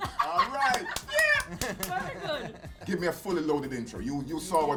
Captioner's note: laughter